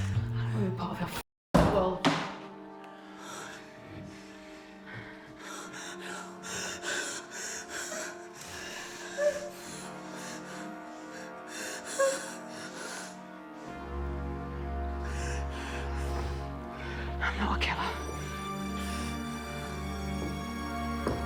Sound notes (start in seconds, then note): 6.2 Miss. Fang crying; 13.0 dramatic music; 18.4 dramatic music